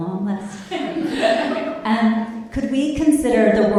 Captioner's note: all laughing